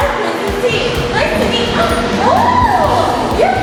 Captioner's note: roars